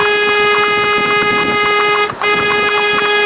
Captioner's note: car horn beeping